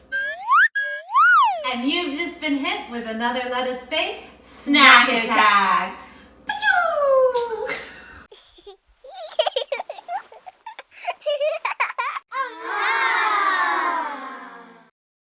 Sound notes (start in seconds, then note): 0.0 whistle toots; 7.3 both laugh; 8.2 child laughs; 11.8 children awe